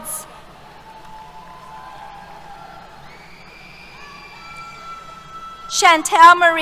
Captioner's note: cheers